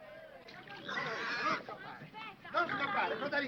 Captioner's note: pig squeals; speaking foreign language